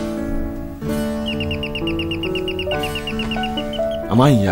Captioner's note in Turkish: zi̇l çaliyor